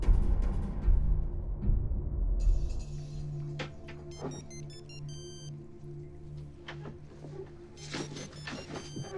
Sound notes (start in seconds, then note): 2.8 phone ringing